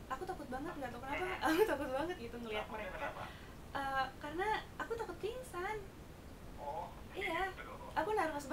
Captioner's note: laughing